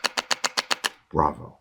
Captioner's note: instrument clicking